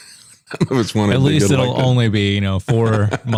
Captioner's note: laughs